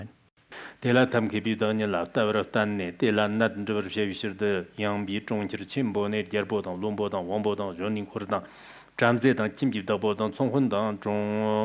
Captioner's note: giving oral transmission in Tibetan